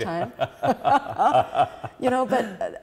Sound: both laughing

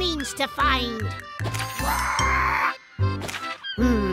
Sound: squawk

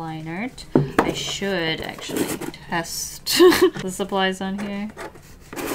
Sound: laughs

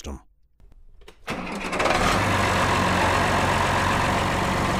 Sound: tractor starts

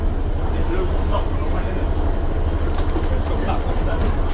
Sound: passengers chat

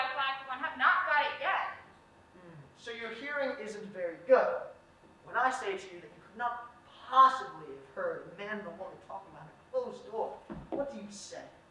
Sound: he lowers his voice

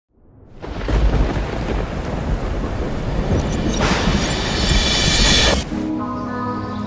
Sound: thunderstorm and lightning

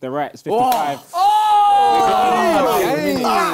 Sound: both cheering

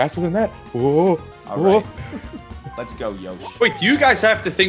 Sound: laugh

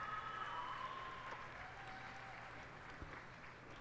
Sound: cheers and applause

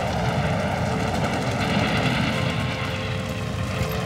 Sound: gunshots bang

